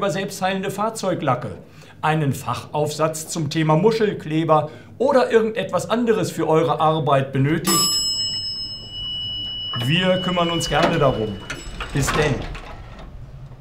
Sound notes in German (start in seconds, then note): 7.6 fahrstuhl-glocke